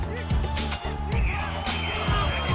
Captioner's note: whistle from crowd